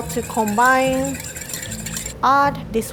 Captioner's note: whisk scratching